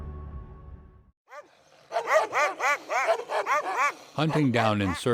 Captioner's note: dogs barking; voiceover